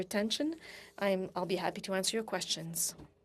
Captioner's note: speaking French